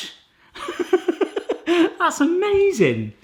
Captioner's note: laughs